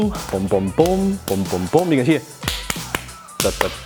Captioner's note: hands clapping in rhythm